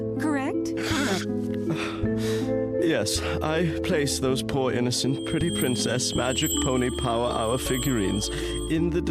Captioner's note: sniffs and sighs